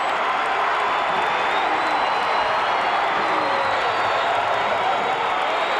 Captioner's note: audience cheering